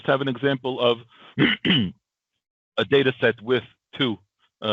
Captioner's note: clears throat